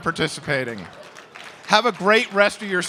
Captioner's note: applause